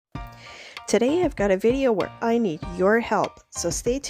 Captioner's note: upbeat music; voiceover